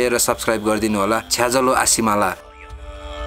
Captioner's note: in gurung language